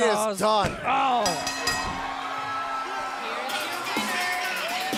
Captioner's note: bell ringing